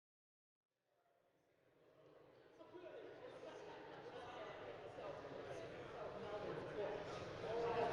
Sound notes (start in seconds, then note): 2.6 people chattering